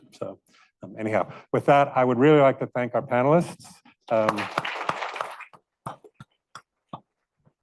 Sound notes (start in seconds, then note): 4.2 audience applauding